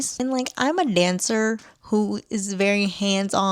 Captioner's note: none